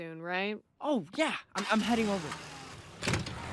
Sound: engine starting

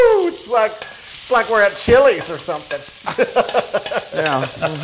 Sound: laugh

